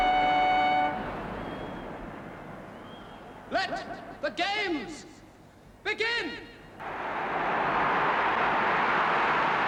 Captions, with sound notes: Let the Games begin! (CROWD ROARS)